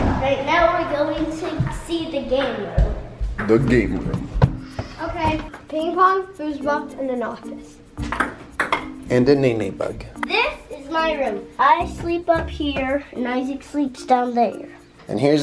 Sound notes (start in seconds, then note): 7.4 ping-pong ball bouncing